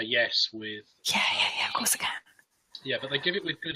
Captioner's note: whispering